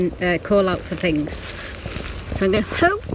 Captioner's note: leaves rustling